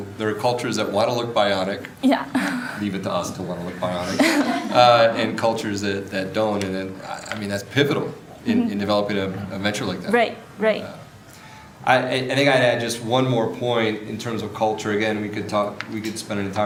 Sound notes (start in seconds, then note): 3.7 audience laughs